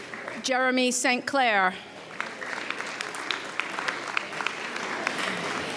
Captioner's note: audience applauds